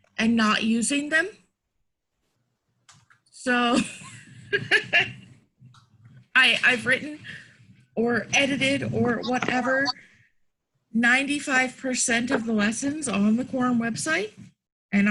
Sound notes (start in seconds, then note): 3.6 laughs